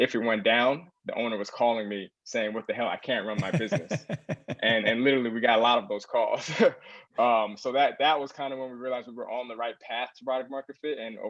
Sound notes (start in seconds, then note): 3.4 laugh